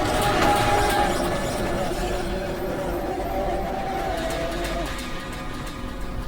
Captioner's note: disorienting noises